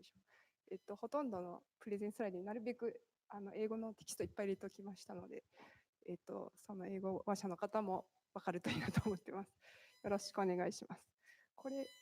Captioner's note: speaking japanese